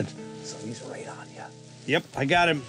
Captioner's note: whispers